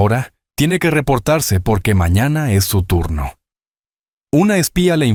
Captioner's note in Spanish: Llamada de radio, sonido distorsionado